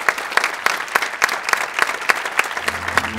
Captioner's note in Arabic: تصفيق